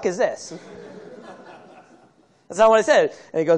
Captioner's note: laughter